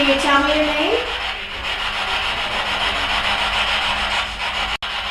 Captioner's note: static buzzing